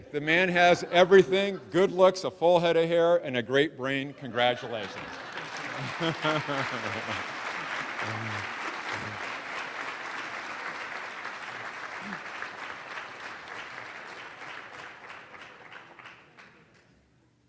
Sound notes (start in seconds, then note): 4.4 audience laughing; 6.8 applause